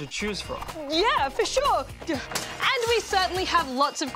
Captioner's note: glass shatters